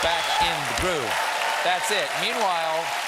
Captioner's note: cheers and applause